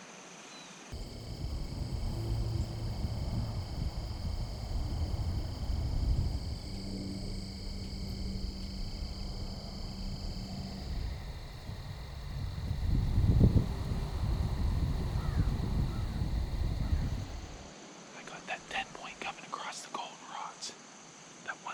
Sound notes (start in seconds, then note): 1.8 cicada chirp